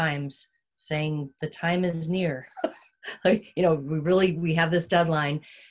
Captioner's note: chuckles